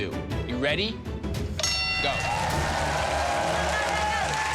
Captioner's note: bell dings